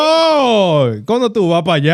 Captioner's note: speaking Spanish